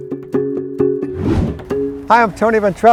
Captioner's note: screen whooshes; gentle folk music